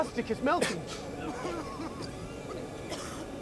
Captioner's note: all coughing